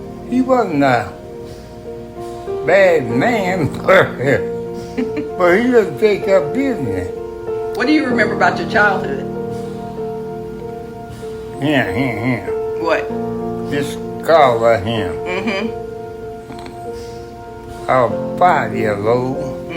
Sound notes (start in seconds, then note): 4.8 laughter